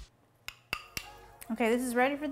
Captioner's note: glass clinks